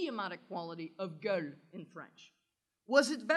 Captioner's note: french